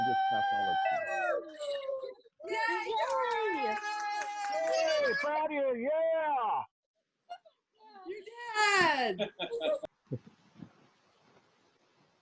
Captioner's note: cheers